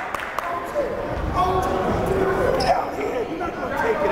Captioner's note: yelling